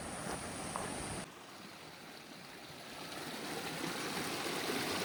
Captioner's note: creek babbling